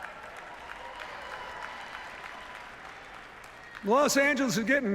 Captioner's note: cheers, applause